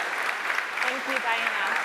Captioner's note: applause